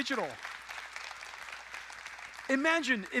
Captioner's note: audience applauding